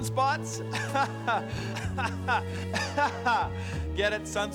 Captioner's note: laughs